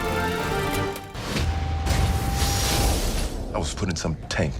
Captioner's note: exploding